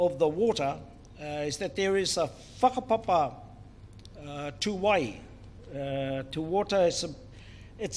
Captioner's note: foreign Language